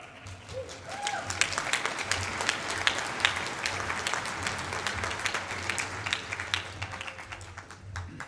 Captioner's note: applause